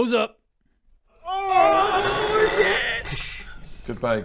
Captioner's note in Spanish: Krrrrrrrk-scsh